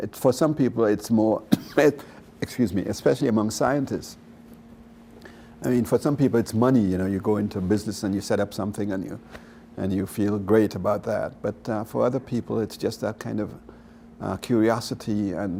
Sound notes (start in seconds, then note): 1.4 coughs